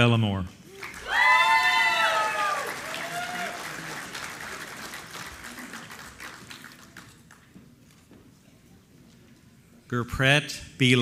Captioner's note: applause